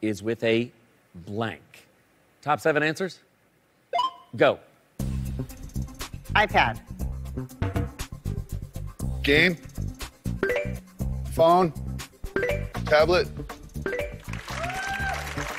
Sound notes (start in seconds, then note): 8.1 bass notes; 10.4 bell chimes